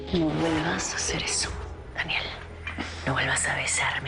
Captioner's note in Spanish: En voz baja